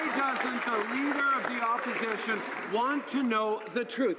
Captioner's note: some applause